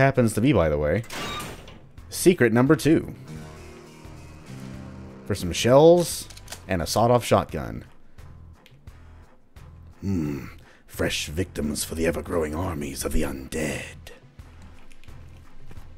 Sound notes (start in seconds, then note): 3.1 riff plays; 9.9 caleb voice